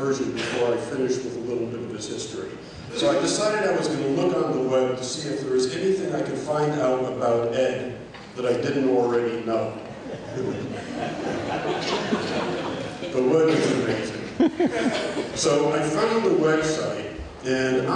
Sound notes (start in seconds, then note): 10.0 laughter